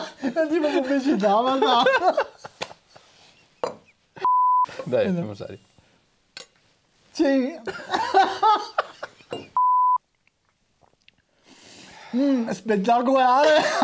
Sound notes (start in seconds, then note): 7.6 laughter